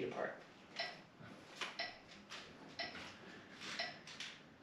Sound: metronome ticking

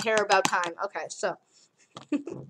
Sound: starts giggling

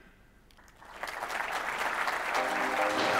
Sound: applause

